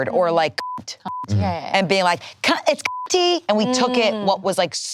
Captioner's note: beep; beep